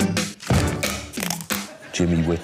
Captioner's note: plays convincing action music; makes sound effects